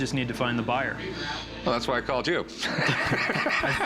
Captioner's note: laughs